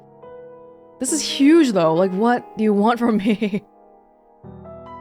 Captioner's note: chuckles